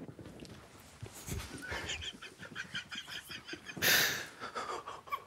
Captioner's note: group quietly laughing